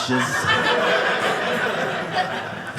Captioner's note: audience laughing